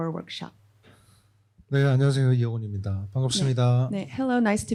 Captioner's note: speaking korean